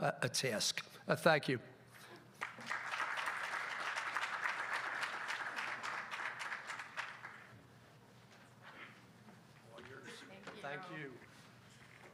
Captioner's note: applause